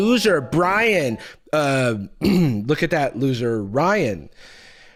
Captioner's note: clears throat